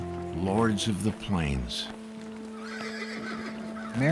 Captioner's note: horse whinnying